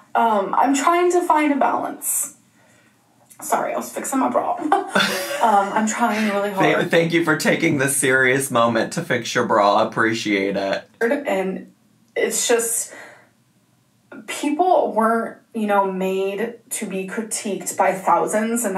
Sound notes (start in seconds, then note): 4.6 laughs